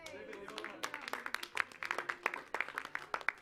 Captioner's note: clapping